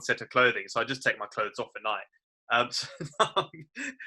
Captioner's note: laughs